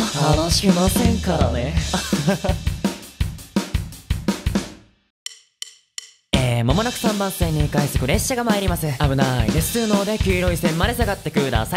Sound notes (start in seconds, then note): 5.1 natural voice